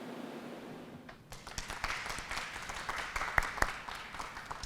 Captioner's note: applause